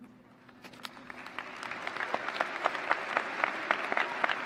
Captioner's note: applause